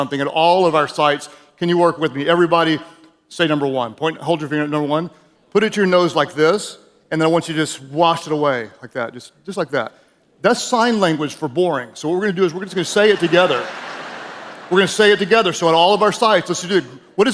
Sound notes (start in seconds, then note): 12.7 audience laughing